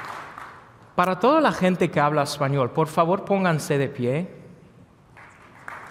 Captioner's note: speaking non English language; applause